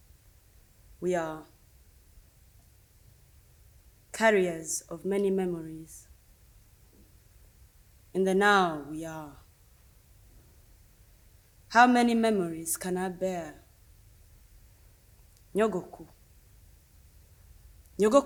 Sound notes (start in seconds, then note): 11.4 speaks Kinyarwanda